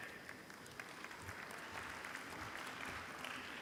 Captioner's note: applause